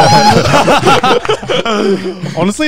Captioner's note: laughs